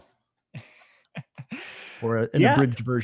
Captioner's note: laughing